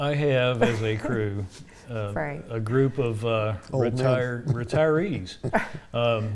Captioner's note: laughs